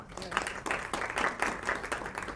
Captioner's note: applause